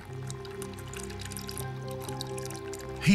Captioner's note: burbling of water